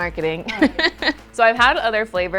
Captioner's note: laughing